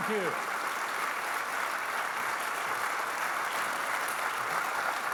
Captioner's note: audience clapping